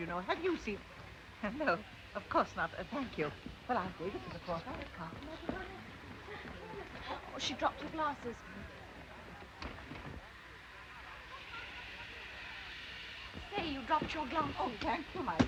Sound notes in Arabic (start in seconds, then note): 3.6 تمتمة امرأة